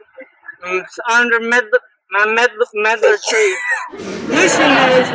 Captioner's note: vomits